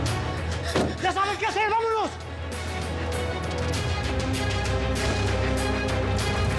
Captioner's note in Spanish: portazo